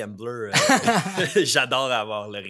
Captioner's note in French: rires